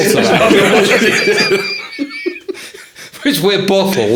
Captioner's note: laughing